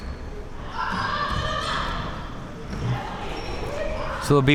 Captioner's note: spectators shouting